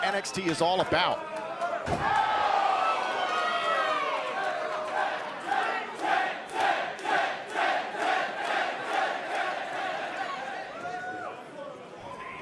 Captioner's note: crowd cheering